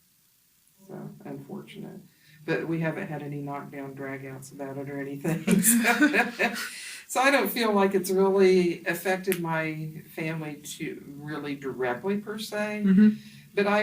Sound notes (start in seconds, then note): 5.4 both laugh